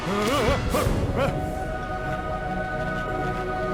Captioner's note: scream